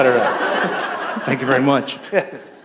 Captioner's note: laughter